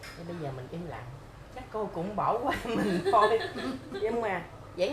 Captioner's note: laugh